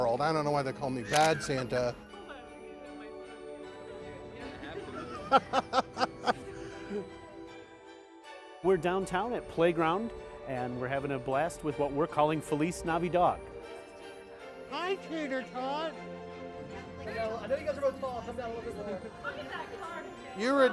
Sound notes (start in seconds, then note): 1.0 shutter clicks; 2.2 laughs; 2.2 lively orchestra music; 4.5 laughs; 5.5 orchestra music; 16.0 lively orchestra music